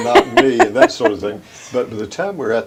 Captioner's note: laughter